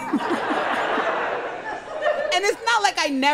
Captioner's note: crowd laughs